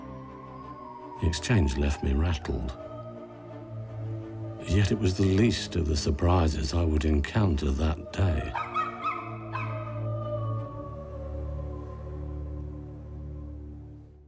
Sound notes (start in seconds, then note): 8.5 dog barking